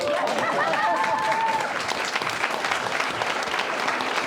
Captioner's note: audience applauding